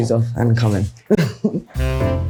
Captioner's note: Adwoa laughs; smooth jazz music